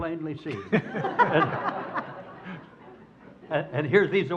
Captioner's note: audience laughs